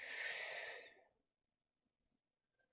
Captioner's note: sharp inhale